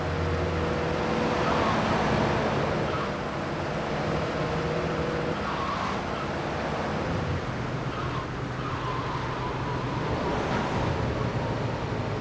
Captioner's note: tires screeching